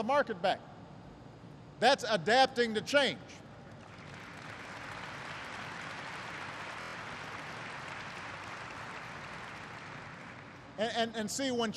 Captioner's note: applause